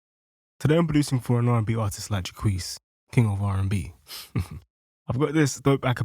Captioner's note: laughs